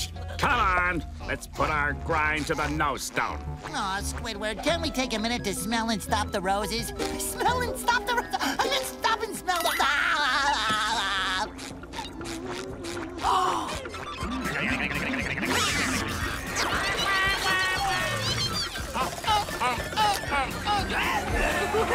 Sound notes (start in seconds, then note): 9.7 laughing; 13.0 gasping